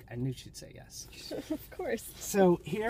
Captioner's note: laughs